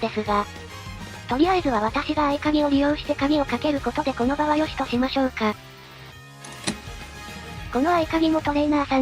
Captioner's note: click